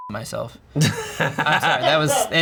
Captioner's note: beep; laughs